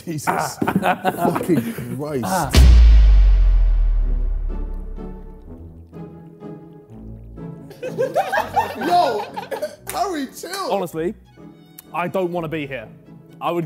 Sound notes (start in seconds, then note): 4.5 whimsical music; 7.6 Sidemen laughing